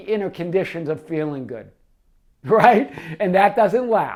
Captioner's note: chuckling